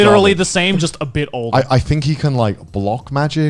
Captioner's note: laughing